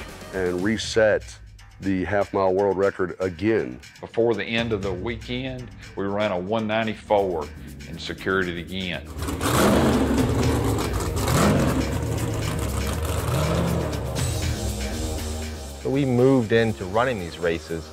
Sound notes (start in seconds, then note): 9.0 car engine revving; 9.2 rock music